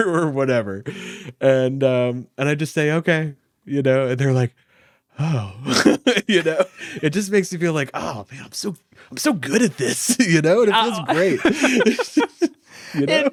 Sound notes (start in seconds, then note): 1.1 laughs; 5.1 sighs peacefully; 5.4 laughs; 10.7 laughing